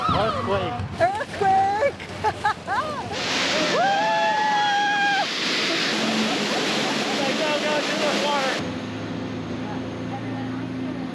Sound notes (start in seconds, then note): 1.1 laughs; 2.8 crowd screaming